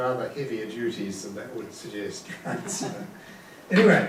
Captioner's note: laughing